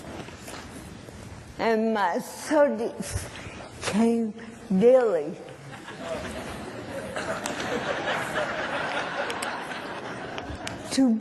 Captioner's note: laughter; applause